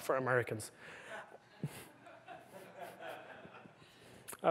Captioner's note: laughter